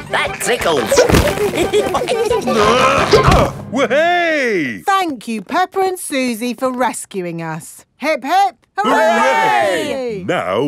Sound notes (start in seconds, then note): 0.8 all giggling; 2.5 grunting